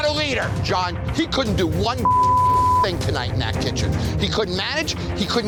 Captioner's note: beep